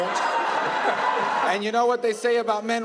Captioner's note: crowd cheering